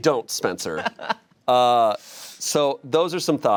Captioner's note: chuckles